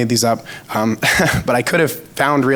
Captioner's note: giggles